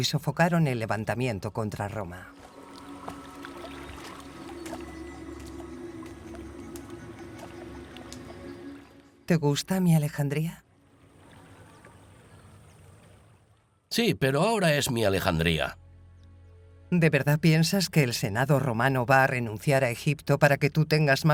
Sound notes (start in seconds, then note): 1.6 water lapping; 3.0 gentle music